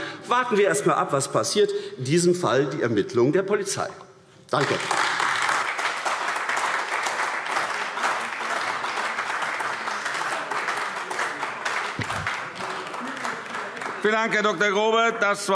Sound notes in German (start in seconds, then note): 4.5 Beifall AfD